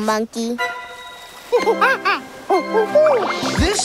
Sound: chattering

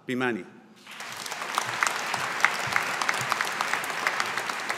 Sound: audience applauding

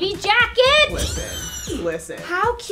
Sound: woman screams

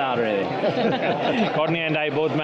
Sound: group laughing

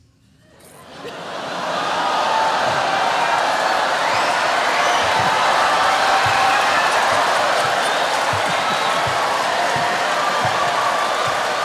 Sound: cheering

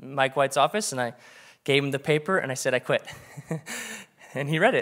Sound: laughs

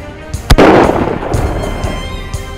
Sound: gun shot

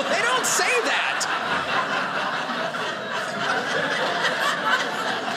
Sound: audience laughing

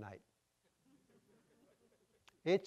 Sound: audience chuckling

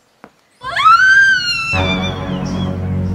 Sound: villager's screaming

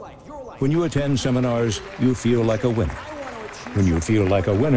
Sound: applause

